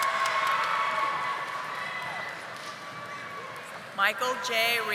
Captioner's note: audience applauding